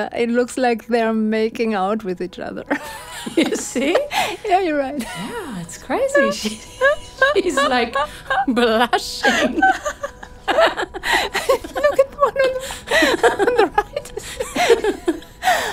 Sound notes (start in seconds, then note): 2.8 laughs; 7.8 both laughing